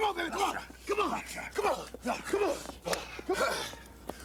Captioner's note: Hogan panting